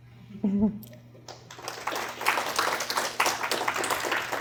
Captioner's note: applause